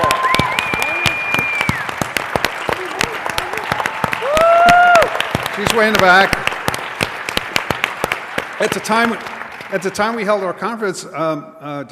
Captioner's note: applause